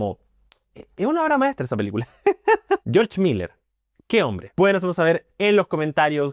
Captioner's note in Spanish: risas